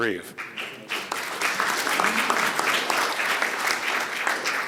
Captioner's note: audience applauding